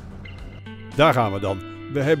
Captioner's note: voiceover